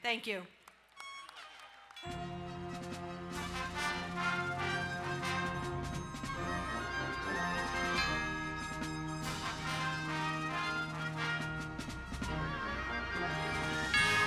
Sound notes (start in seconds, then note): 0.7 crowd cheering and applauding; 3.6 uplifting orchestra music